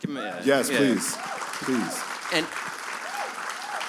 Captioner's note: cheers and applause